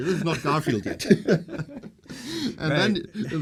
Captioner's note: both laugh